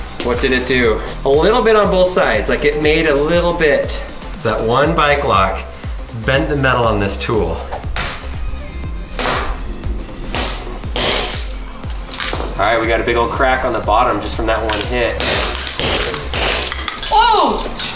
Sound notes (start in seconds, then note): 7.9 upbeat music; 9.0 hammering; 15.1 hammering